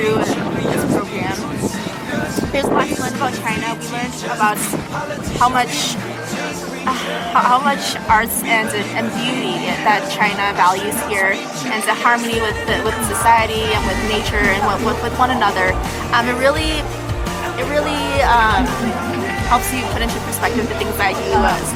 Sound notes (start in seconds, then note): 2.7 speaks softly